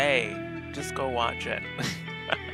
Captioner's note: chuckle